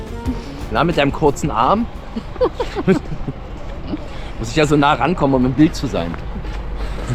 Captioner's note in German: gelächter